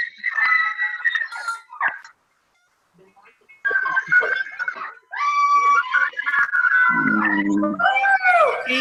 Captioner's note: cheering